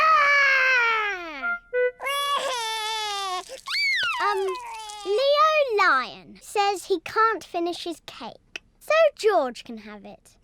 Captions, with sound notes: Roar! (CRYING) Um, Leo Lion says he can't finish his cake, so George can have it.